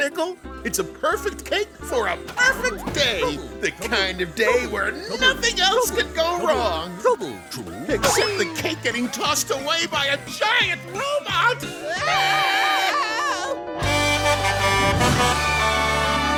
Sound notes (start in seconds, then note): 11.9 screaming; 13.8 honking